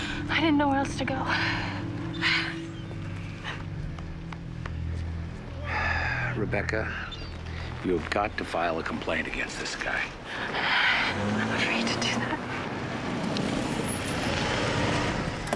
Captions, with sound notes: I didn't know where else to go. - Sorry. (sighing) Rebecca... you have got to file a complaint against this guy. - I... I'm afraid to do that. (vehicle approaching rapidly)